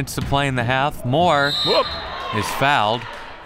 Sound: whistle

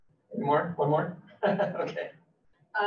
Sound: laughs

